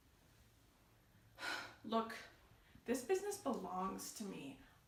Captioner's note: sigh